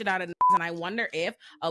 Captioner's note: beep